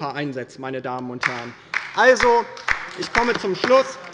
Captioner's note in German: Beifall bei der LINKEN